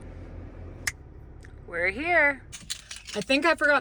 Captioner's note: snaps fingers